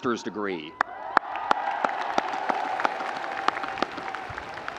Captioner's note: audience cheering